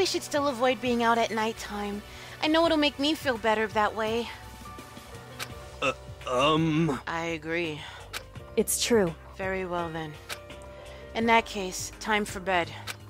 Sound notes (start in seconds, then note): 5.4 laughs